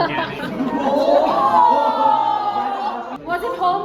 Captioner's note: everyone exclaims